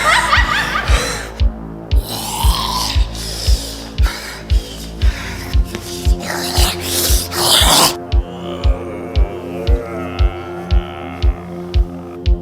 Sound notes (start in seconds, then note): 2.0 zombie noises